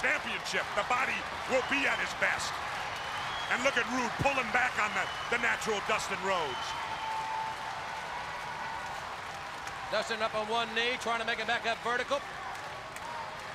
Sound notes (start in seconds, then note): 7.0 crowd cheering; 13.3 crowd chatter